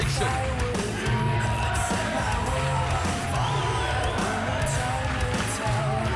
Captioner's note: crowd chanting; rock music